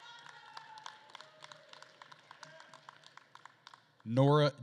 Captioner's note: attendees cheering and applauding